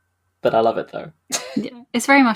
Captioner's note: laughs